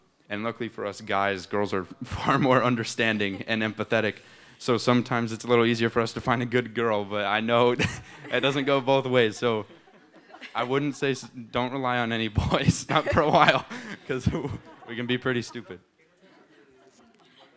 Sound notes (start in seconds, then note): 3.0 chuckles; 7.7 laughs; 7.7 laughter; 12.3 laughs; 17.3 laughter